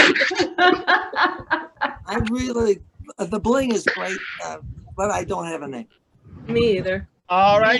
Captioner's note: laughs